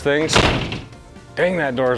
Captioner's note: door bangs